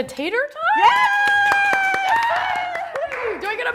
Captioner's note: cheers and claps